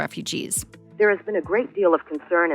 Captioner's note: archival news audio